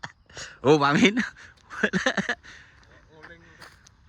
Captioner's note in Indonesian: tertawa